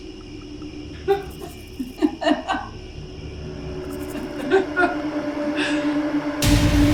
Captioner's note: crickets, haunting music; laughing, crickets, haunting music; jump scare, crickets, haunting music